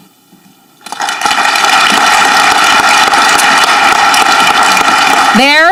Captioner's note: audience clapping